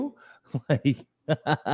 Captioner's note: laughs